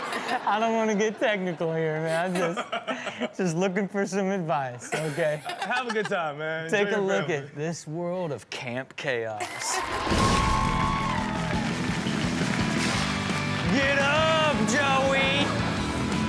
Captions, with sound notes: - I don't want to get technical here, man. Just looking for some advice, okay? - Have a good time, man. - Take a look at this world of "Camp Chaos". (audience cheers) (upbeat rock music) Get up Joey.